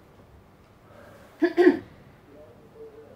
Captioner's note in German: räusper